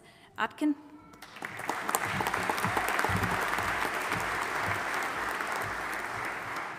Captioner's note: audience applauding and cheering